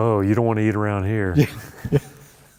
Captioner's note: laughter